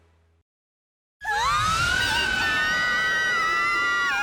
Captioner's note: all screaming